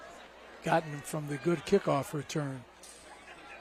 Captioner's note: laughter